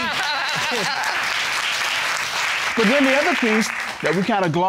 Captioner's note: audience laughing and clapping